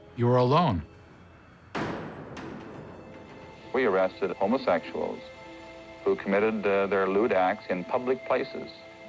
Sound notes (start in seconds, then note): 1.6 door slams